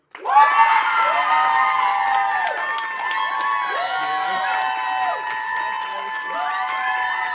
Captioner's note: audience applauding; audience cheering